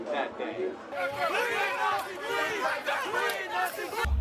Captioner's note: yelling